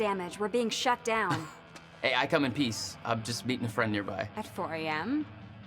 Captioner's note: laughs